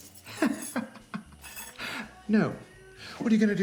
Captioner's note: Homer laughs